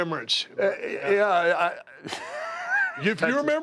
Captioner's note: laugh